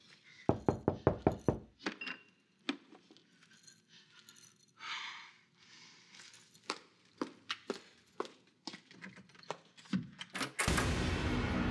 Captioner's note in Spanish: Toques en la puerta